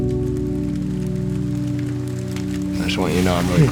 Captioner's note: fire crackling